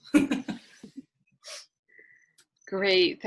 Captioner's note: giggling